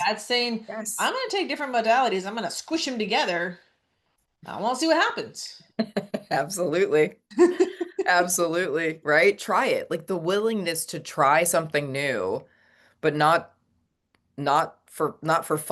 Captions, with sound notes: That's saying- Yes. ... "I'm gonna take different modalities. I'm gonna squish 'em together. Uh, we'll see what happens." (laughs) Absolutely. (laughs) Absolutely, right? Try it. Like, the willingness to try something new, but not...... not for, not for